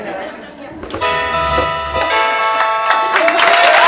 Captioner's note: audience laughs; holiday music